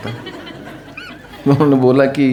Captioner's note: laughs